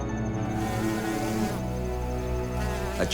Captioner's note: bee buzzing